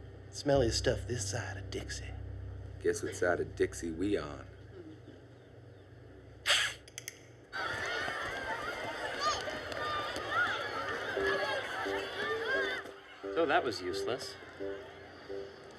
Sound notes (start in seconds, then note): 6.2 hisses; 8.1 sound of children playing